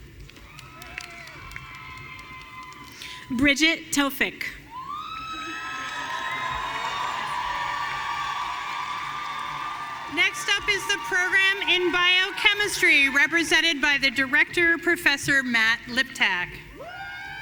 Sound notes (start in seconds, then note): 0.4 audience cheering; 4.7 audience cheering and applauding